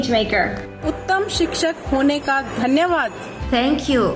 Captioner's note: educator speaks in foreign language